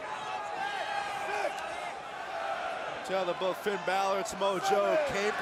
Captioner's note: crowd chatter